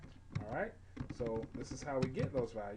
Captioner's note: typing sounds